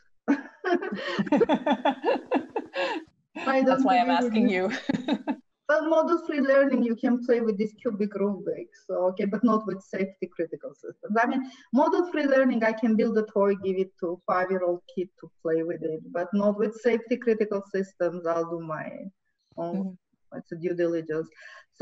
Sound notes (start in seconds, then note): 0.2 laughter; 4.5 laughs